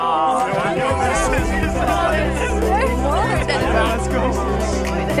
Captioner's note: excited chatter